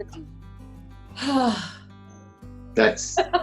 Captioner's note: sigh